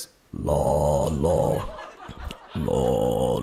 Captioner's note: deep voice